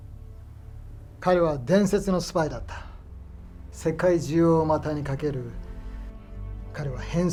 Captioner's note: Toshio speaking in foreign language